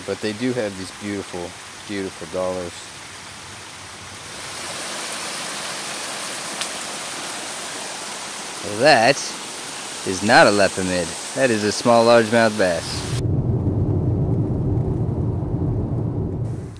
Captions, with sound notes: But they do have these beautiful, beautiful dollars. [ water running ] Well that is not a lepomid. That is a small largemouth bass. [ driving noises ]